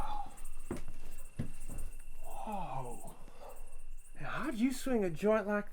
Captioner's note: sighs